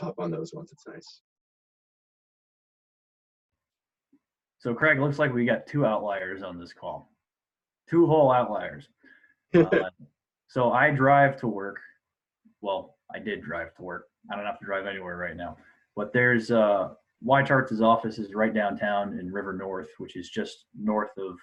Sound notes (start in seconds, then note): 9.6 laughing